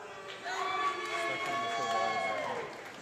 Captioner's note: applause